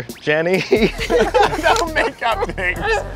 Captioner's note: laughing